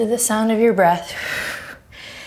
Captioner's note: deep breaths